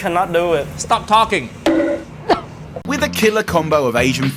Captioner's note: mallet thudding